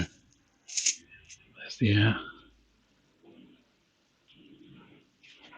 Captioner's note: hissing